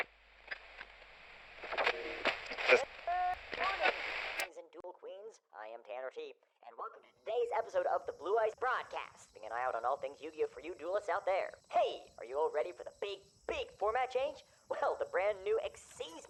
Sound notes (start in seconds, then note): 3.0 on Radio